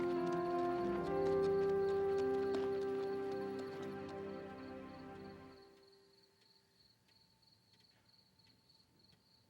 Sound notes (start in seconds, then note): 5.8 crickets chirping